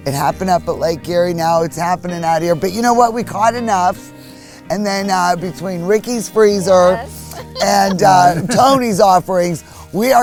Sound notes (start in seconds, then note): 6.5 laughs